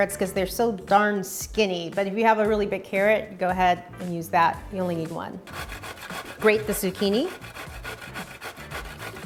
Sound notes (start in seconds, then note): 5.4 grating